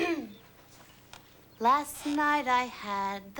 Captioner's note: valerie clears■throat